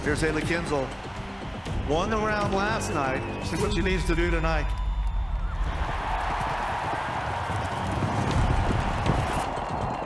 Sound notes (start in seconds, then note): 6.1 crowd cheering